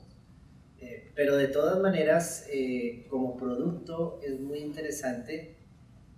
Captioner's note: speaking in Spanish